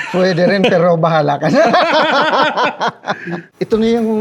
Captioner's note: laughs